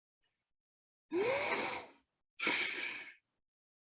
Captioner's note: sighing